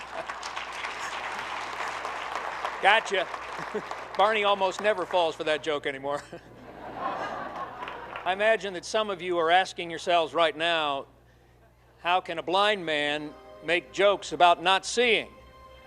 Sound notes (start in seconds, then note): 0.0 group clapping; 6.1 group laughing